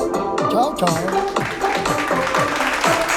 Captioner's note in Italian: Applauso